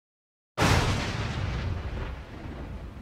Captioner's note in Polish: drugi grzmot; odgłos grzmotu burzy